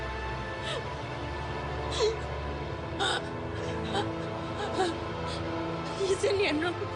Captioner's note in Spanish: Sollozos